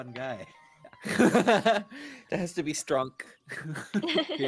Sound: laughs

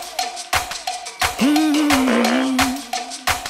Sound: humming

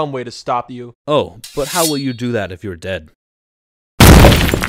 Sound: unsheathing sounds; crashing sounds

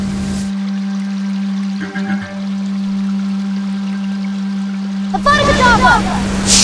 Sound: pensive music; water babbling

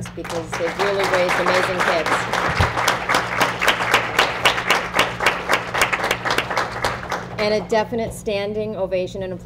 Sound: applause

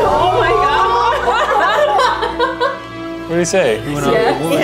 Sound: everyone laughs

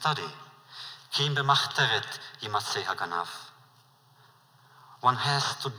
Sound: Yiddish

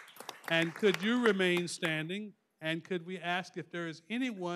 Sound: applause

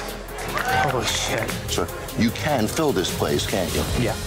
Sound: patrons cheering

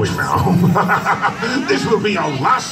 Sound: laughs

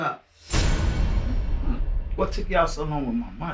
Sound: dramatic rumbling

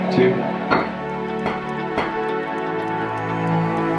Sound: bulb popping

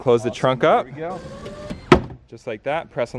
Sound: hydraulic whining

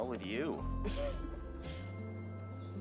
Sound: Joe laughing

